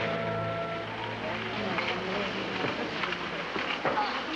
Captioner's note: women chatting